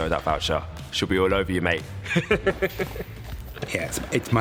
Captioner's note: chuckles